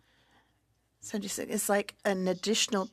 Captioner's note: speaking French